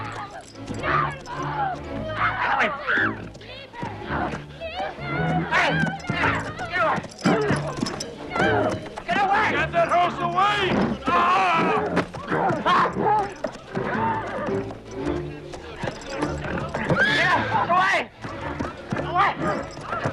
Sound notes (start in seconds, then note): 0.0 family screaming; 0.3 dramatic music; 11.2 guard shouts; 15.8 horse neighs